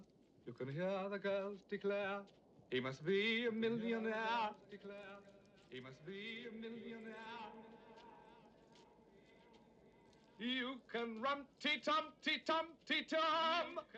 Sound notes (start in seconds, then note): 5.5 echoing